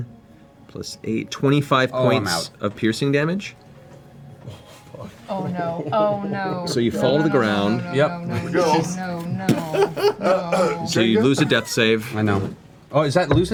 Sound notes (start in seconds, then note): 9.5 clears throat